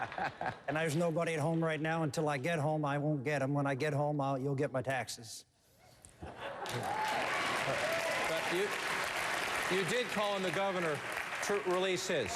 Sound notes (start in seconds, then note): 6.6 applause